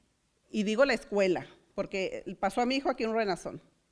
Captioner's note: foreign language